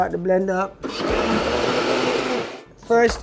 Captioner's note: blender whirring